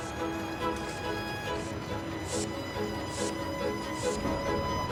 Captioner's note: air pump hissing; orchestral music continues